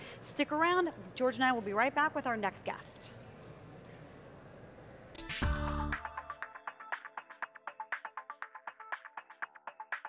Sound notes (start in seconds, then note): 3.2 quiet crowd noise; 5.2 techno music